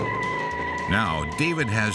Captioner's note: tires squeal